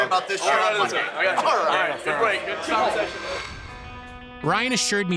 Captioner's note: indistinct chatter